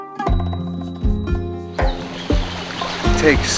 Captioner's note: water rushing, wind & bird sounds